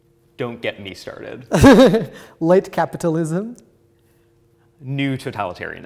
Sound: laughs

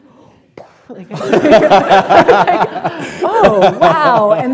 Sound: laughter

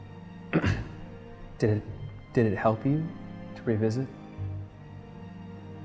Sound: ahem

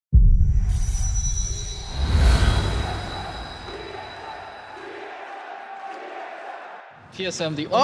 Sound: crowd

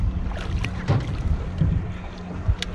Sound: fish splashing

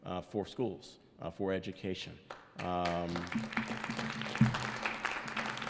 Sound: audience applauds

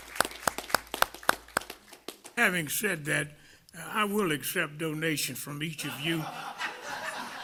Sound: applause

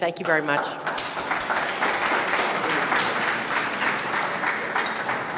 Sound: audience clapping

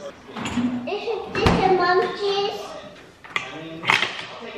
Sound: baby talk

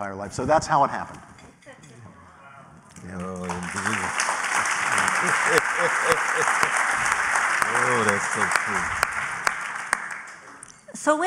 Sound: applause

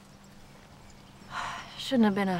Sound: sighs

